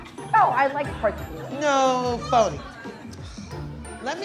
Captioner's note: scoffs